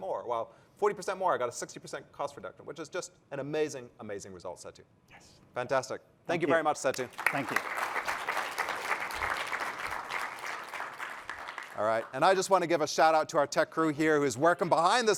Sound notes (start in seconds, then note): 6.8 applause